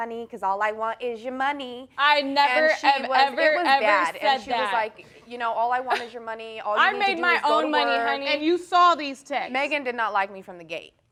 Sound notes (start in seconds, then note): 7.4 scoffs